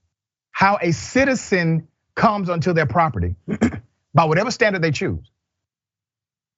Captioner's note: cough